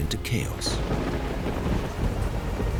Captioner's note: thunder crashing